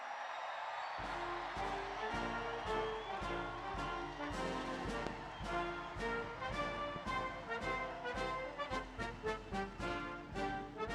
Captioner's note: applause